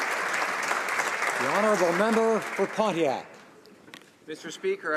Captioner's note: applause